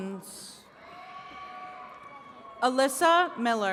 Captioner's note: attendees cheering